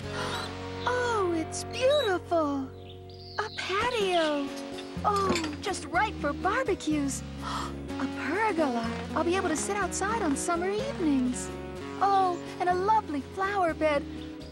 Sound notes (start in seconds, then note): none